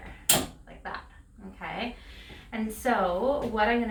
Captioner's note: machine clanks